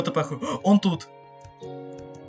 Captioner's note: gasp